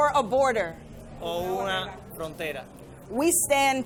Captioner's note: and interpreter speaking in foreign language